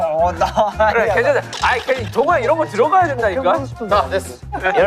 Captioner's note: arguing